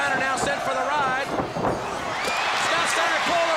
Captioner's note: crowd cheering